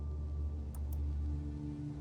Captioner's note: mouse click